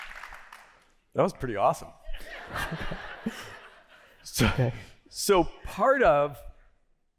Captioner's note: laughter